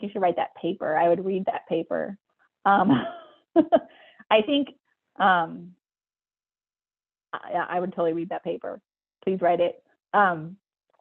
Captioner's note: laughs